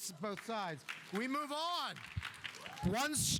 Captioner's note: audience applauding